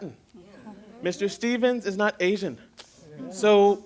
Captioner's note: affirmative chatter; affirmative chatter